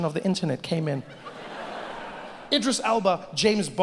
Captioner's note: audience laughing